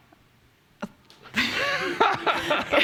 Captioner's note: laughter